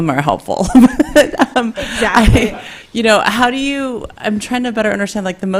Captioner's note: laughs